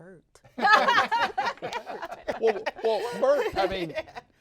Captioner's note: all laughing